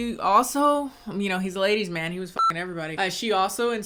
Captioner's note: beep